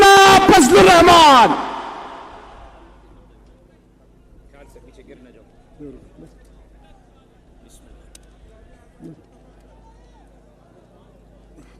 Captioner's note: silence